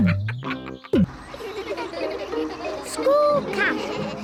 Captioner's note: all giggling